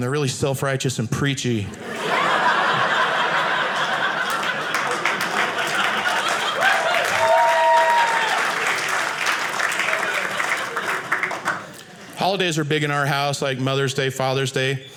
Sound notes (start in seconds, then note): 1.4 audience laughing; 5.0 audience applauding